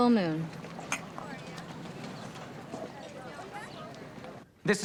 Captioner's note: glasses clink